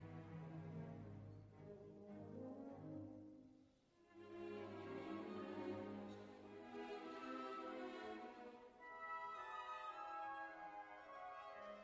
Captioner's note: speaking French